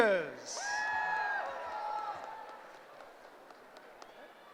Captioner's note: cheering